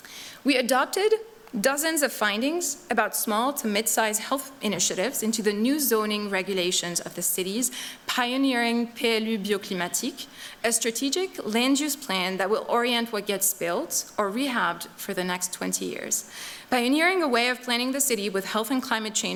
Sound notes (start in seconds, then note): 8.8 non-english speech